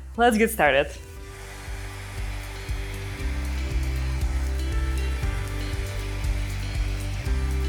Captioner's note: bright music; dryer whirring